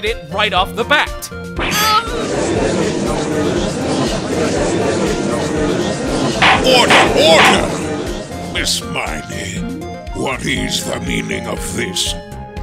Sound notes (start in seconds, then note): 2.1 gallery chattering; 6.4 gavel slams!